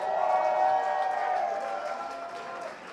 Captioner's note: crowd cheers